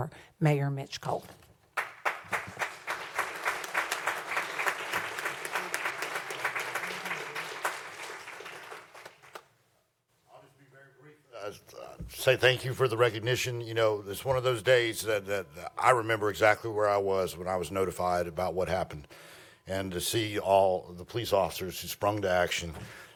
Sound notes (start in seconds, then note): 8.1 applause